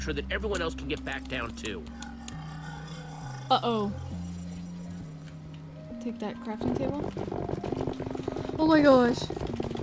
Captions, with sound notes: (growling) - Uh-oh. Take that crafting table. (shivering) Oh my gosh.